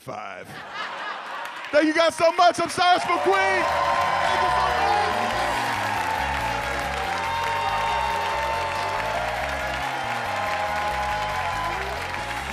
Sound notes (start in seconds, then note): 0.4 audience laughs; 3.7 audience applauds; 3.7 audience cheers; 5.1 upbeat music